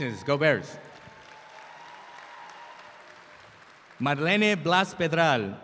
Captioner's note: audience applauds